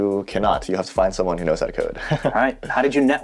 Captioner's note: laughing